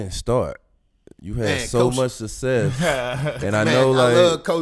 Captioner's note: laughs